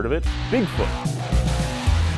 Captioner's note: engine roars